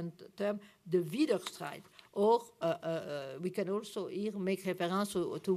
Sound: german

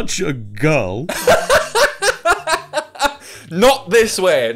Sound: laughs

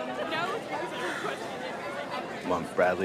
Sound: sighs

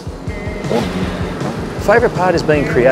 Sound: engine roars

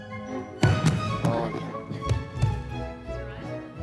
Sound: thump

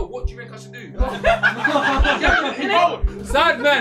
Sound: all laughing

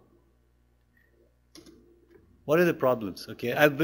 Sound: pause

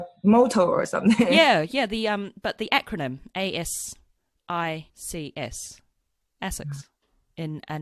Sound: laughs

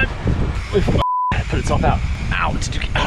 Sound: beep

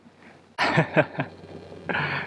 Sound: laughs

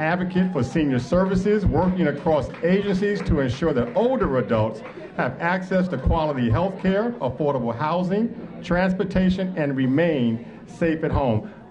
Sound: applause

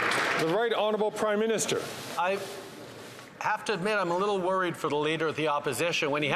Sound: applause

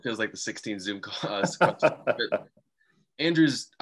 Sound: laughing

